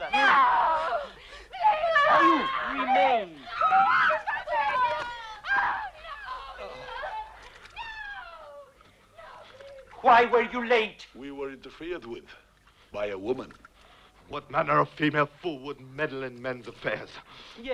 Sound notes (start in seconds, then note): 3.9 mother and daughter screaming; 6.6 Rothrar sighs